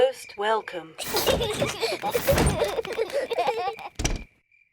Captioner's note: children laugh